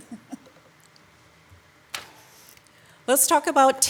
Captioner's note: council member laughing